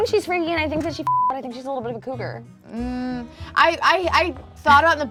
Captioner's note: beep